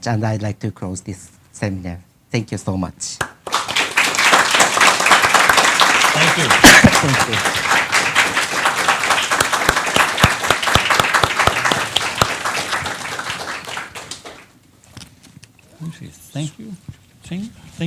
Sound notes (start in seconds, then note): 3.4 applause